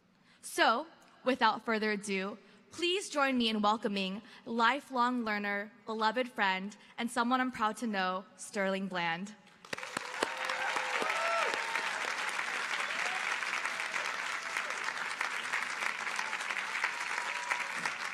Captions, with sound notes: So without further ado, please join me in welcoming lifelong learner, beloved friend, and someone I'm proud to know, Sterling Bland. (audience applauding) (audience cheering)